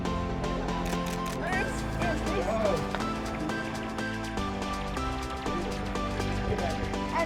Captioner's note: upbeat music; camera clicking